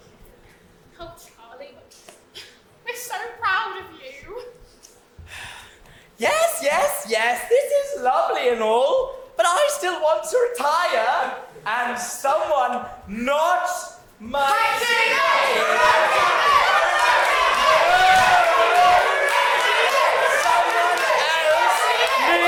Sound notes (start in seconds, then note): 10.7 audience chant Mike TV